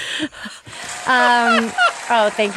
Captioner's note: applause